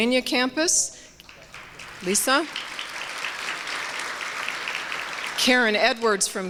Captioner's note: applause